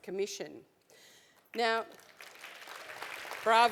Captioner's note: applause